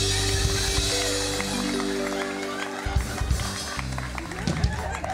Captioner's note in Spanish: Aplausos; Risas